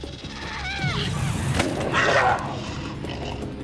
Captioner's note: shouts